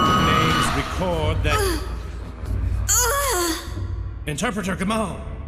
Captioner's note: cries out in pain